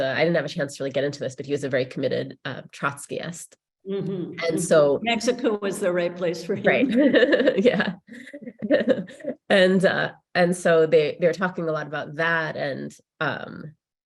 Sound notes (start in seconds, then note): 6.4 laughs